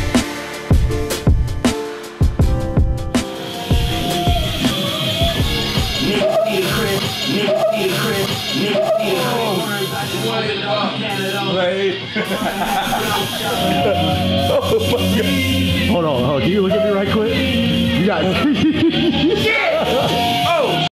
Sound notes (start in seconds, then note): 6.1 yelp; 12.1 laughter; 18.4 laughter